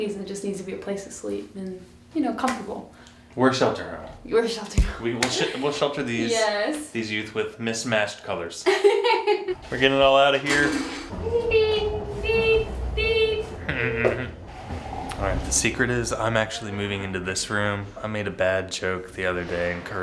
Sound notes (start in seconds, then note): 8.6 laughs